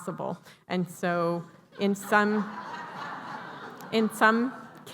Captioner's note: laughter